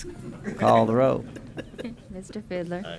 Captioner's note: laughter